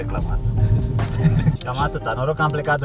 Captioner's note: laughs